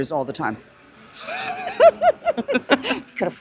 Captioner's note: laughter